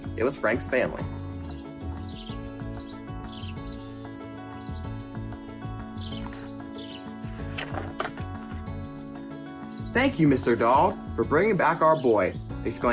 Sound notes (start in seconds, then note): 1.6 birds chirp; 1.6 upbeat music